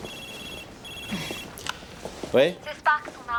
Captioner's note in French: le téléphone sonne